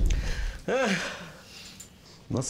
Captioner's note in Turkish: Şuayip sesli iç çekti